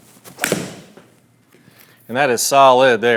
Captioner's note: club striking